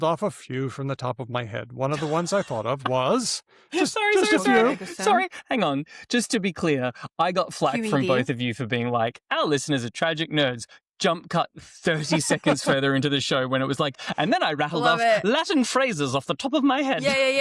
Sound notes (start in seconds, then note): 1.9 laughter; 3.8 laughs